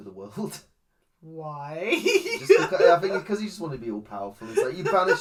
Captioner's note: laughs